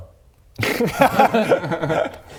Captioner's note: bold laugh